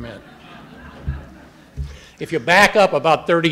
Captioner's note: audience laughing